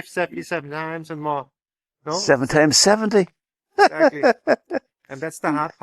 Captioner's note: laughter